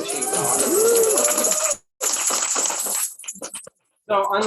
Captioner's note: applause